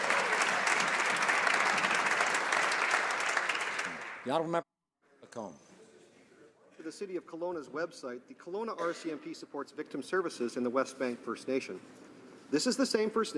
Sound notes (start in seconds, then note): 2.3 some Applause